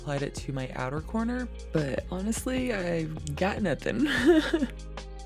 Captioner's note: laughs